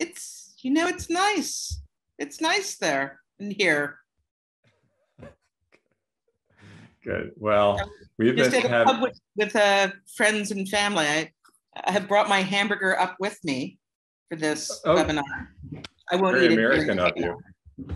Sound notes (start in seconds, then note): 4.4 laughter